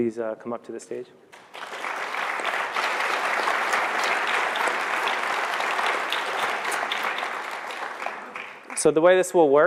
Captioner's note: applause